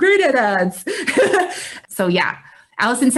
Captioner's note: laughs